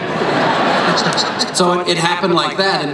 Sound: crowd laughs

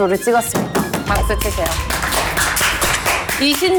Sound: applause

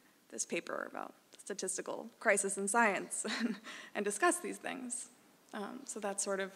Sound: laugh

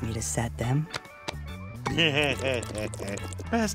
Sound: giggling

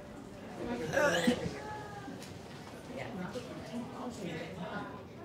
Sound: gags

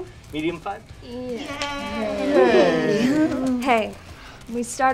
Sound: all quietly cheering

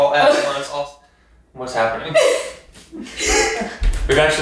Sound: laughing

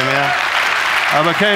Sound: audience applauding

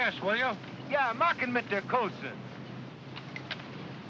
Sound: photographer speaks in German

